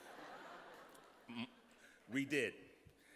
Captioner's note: laughter